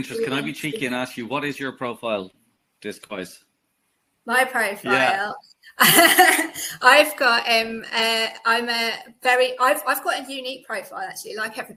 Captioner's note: laugh